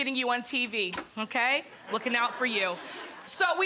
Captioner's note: audience laughs